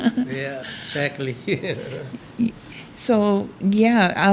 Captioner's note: laughs